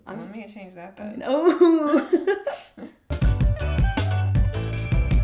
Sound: laughs

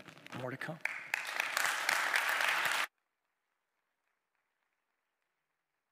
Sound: applause

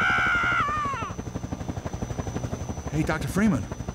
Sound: helicopter Blades Spin

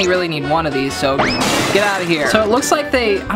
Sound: crashing

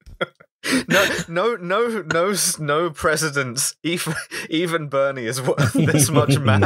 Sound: laughter

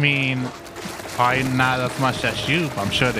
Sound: soft sustaining sound; soft sustaining sound

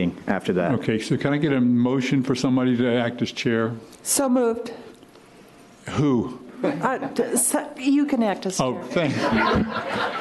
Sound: laughter

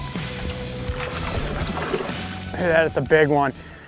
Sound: water rushing

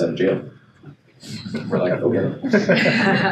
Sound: laughing

